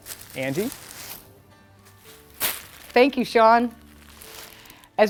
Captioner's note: pompom crunches